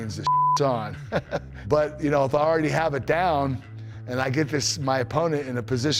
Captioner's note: laugh